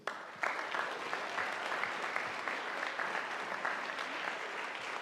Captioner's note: audience applauding